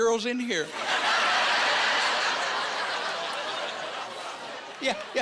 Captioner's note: laughing